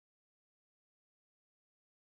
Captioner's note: none